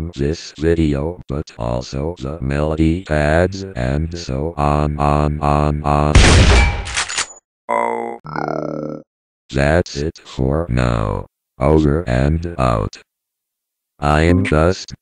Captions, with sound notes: (Gunshot) - Thanks for watching!